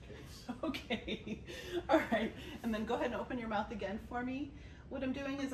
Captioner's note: laughs